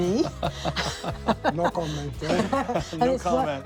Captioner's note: men laughing